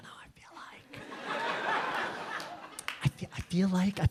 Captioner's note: audience laughing